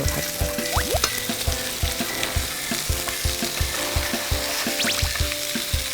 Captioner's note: blowing